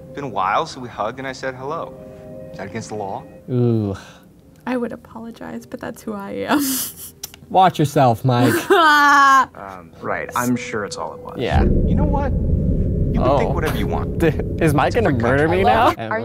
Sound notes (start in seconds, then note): 8.4 laughs